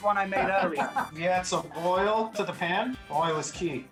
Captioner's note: laughing